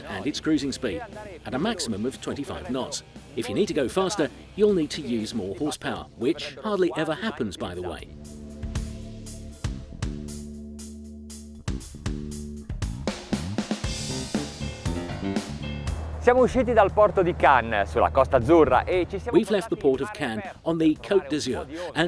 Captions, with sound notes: and it's cruising speed at a maximum of 25 knots. If you need to go faster, you'll need to use more horsepower which hardly ever happens, by the way. (speaking in foreign language) We've left the Port of Cannes on the Côte d'Azur